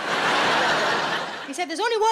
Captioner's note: audience laughs